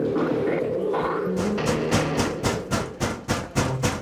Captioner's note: bang! Bang!